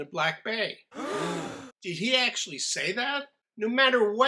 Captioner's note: crowd gasps